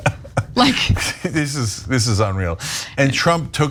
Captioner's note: laugh